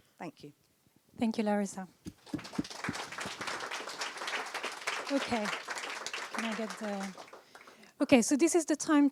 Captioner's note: applause